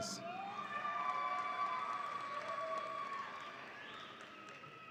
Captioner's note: audience applauds and cheers